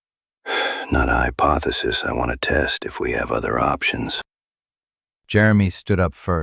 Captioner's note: exhaling